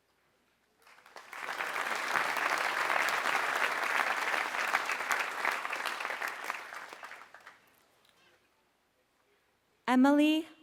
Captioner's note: applause